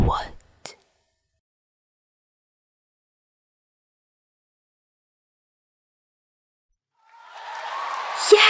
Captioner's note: celebration noises